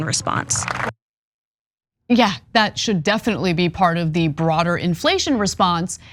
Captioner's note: applause